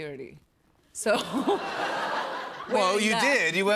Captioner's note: laughter